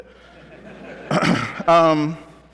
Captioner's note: laughter